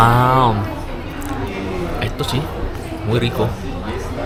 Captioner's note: Spanish